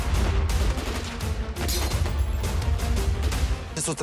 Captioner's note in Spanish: Disparos